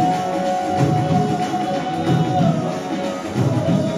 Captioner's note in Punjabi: ਤਾੜੀਆਂ